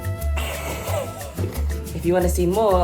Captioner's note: laughing